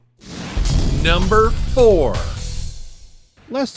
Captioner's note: explosion rumbles